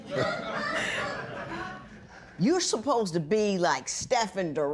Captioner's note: laughter